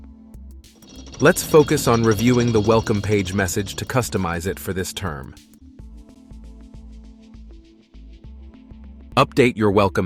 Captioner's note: gears spinning